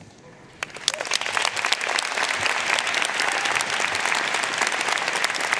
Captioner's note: audience cheering and applauding